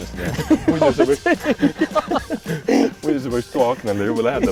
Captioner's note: laughs